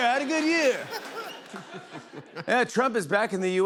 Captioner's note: laughter